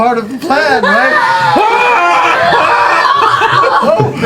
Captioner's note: screaming